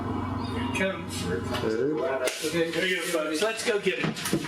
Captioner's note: voiceover